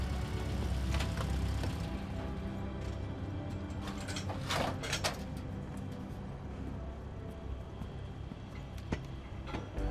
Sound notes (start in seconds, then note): 4.4 steps ratcheting